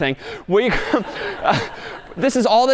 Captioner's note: laughing